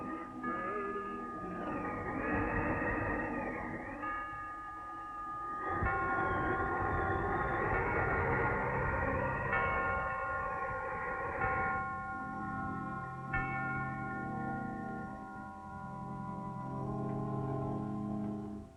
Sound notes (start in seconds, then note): 0.3 clock chiming; 6.7 wind gusting